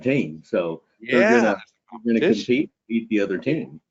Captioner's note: audio distortion